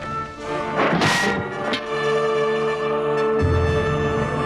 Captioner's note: sword smacks